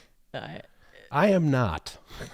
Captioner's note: chuckles